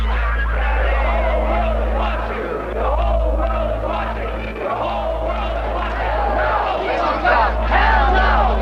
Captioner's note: chanting